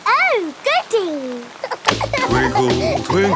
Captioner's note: giggling